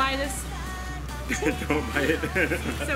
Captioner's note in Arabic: يضحك